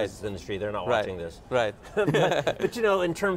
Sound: both laugh

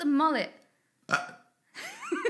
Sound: burps; giggles

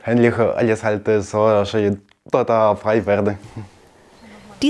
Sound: stuttering

